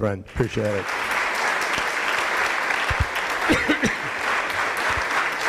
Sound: audience applauding

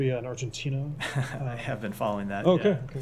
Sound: laughter

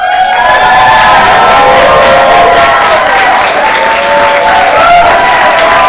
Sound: audience cheers and applauds

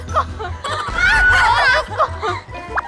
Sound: laughing

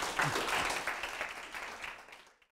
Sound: applause

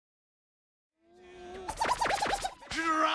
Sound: scratching

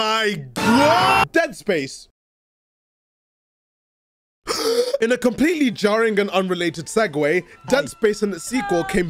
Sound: breathes in

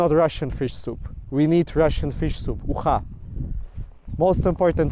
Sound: speaking in foreign language

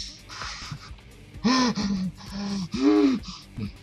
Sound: laughs

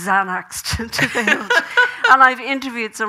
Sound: Graham laughing

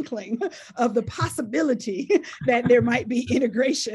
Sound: laughs

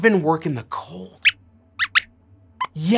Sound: squeaks squeaks

